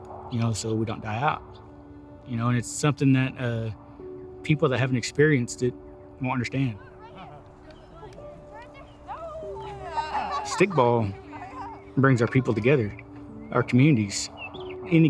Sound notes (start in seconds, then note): 6.6 game sounds